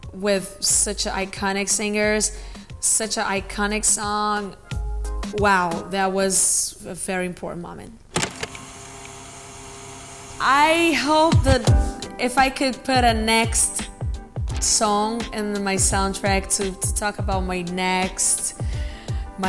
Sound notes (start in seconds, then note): 8.2 whirring